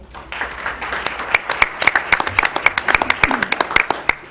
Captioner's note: applause